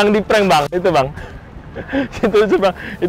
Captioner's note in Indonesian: ketawa